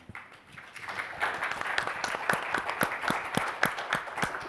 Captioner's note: audience applauding